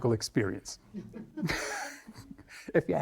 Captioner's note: chuckling